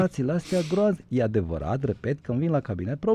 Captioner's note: snoring